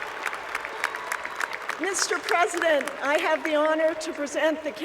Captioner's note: cheers and Applause